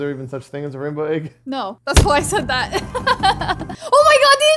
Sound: laughs

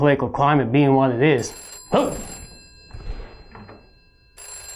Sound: phone rings

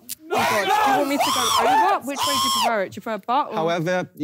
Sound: yelling

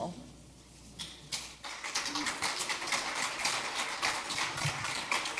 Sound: audience applauds

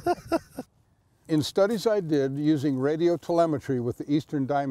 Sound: laughs

